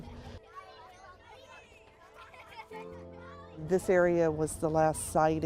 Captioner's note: children laughing